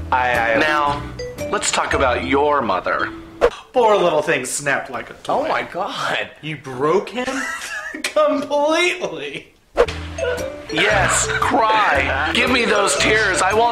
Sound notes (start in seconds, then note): 7.2 laughing; 9.3 Doctor sobbing